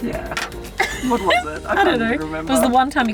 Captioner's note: laughing